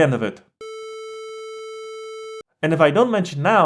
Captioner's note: monotone beep